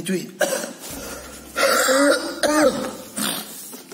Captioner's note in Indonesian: batuk lagi